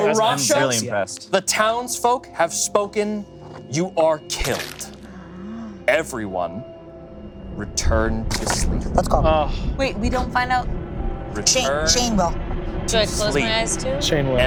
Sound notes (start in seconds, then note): 4.4 cartoon squelching